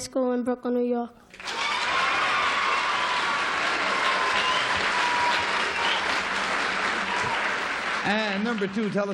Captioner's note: applause